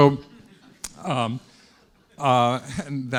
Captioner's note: students laughing